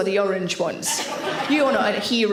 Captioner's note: audience laughing